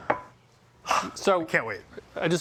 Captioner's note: exhales